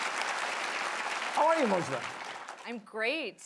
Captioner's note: applause